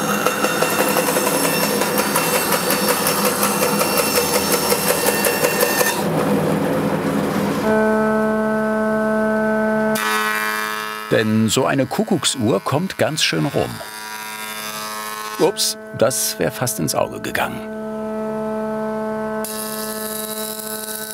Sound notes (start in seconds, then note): 1.2 shrill machine noise; 8.4 whirring; 19.1 mechanical whirring